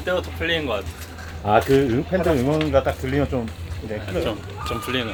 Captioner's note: oh, if you can hear the fans cheering